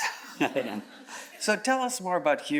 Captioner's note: chuckles